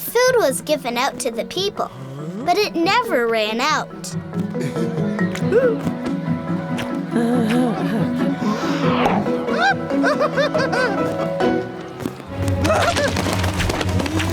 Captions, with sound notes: The food was given out to the people, but it never ran out. (laughing)